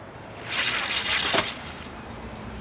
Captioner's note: buzzing